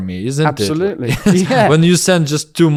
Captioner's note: laughs